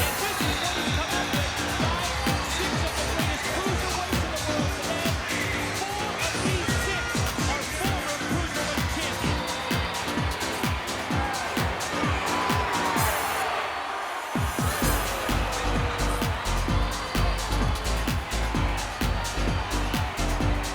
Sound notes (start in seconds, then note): 12.7 crowd cheers; 14.4 entrance music continues